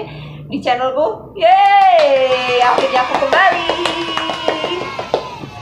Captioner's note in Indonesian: applause